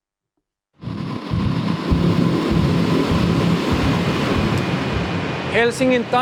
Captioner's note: industrial ambience